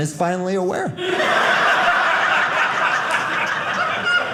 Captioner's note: audience laughing